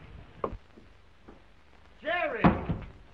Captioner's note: heels clicking; table thuds